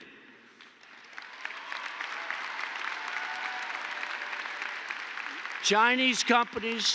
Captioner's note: applause